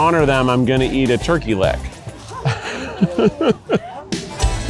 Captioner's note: laughs